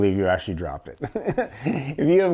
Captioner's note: laugh; laughs